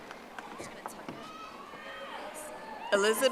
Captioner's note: audience applauding